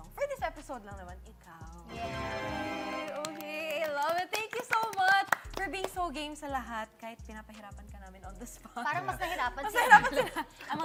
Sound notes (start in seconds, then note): 3.0 claps